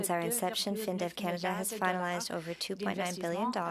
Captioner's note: speaking French